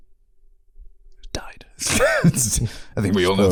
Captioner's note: whispering